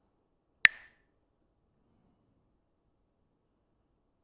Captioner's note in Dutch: klakt met stokjes